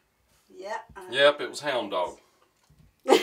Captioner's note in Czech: Smích